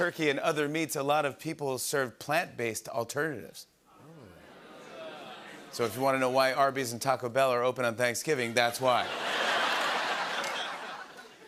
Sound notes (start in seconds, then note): 4.0 audience groans; 8.8 laughter